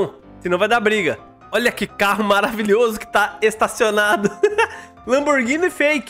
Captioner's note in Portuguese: risos